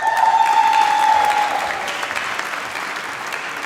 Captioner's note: applause